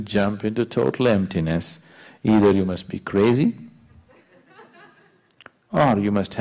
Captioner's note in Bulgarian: малцина се смеят